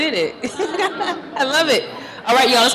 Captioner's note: laughs